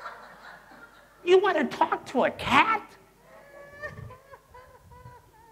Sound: laughter; laughter

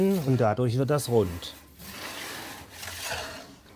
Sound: grinding noise

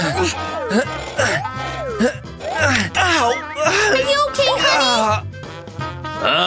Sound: groans; groans loudly; moaning; moaning

